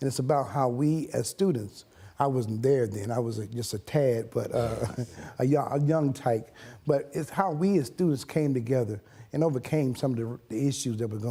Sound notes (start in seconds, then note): 4.5 laugh